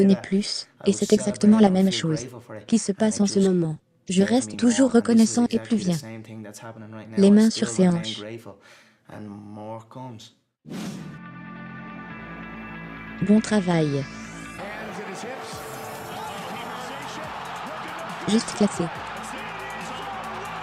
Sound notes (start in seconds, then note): 10.5 upbeat music; 16.6 crowd cheering